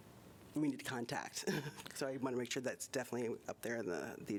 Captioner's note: laughter